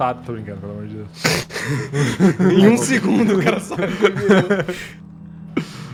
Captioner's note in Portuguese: Risadas